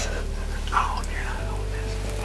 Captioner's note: whispering